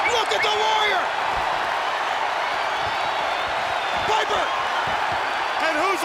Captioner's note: applause